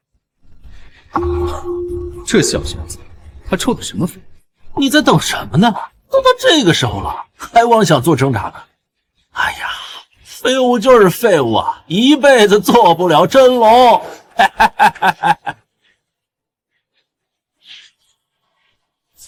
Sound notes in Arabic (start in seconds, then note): 14.3 هاهاهاها